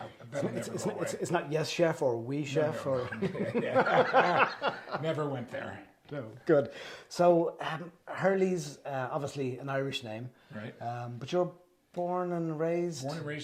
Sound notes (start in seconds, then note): 2.9 laughs